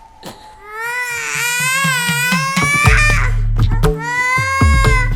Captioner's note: Appoose begins crying